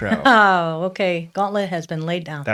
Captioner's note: laughs